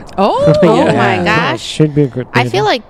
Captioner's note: laughing